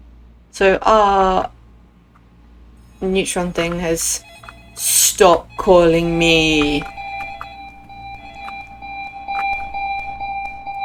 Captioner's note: phone rings